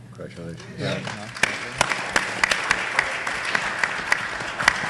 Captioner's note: audience applauding